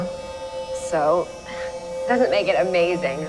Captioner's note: voiceover